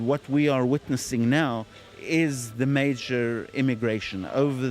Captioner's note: speaking Hebrew